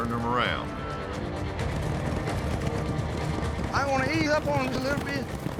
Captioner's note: hoofbeats